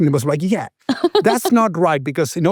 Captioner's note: laughs